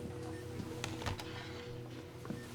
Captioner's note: the sound of nurse's steps; the sound of the folder being put on the bed stand